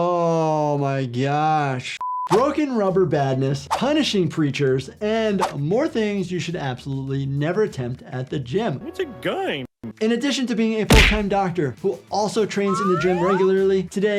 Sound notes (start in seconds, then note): 1.8 beeps